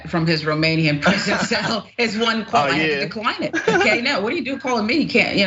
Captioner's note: laugh